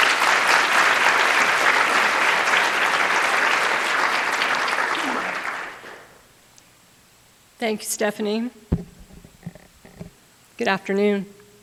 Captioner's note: applause